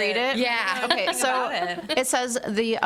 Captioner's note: all laughing